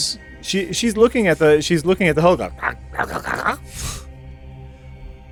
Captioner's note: eager mouth noises